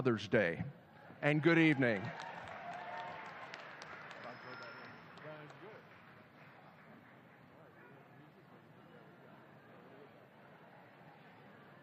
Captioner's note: cheers and applause